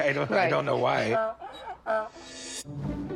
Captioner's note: donkey braying